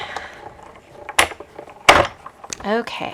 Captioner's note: machine clicking